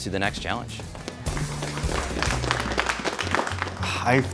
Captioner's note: applause